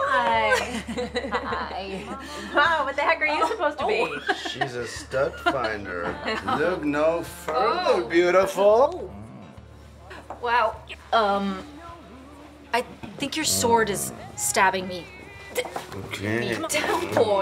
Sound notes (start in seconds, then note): 0.4 Erin laughs; 5.2 laughs; 9.0 grunts